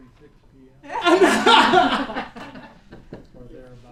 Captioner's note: laughter